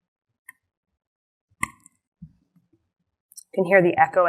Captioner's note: keys tapping